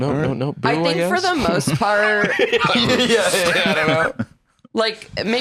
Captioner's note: laughing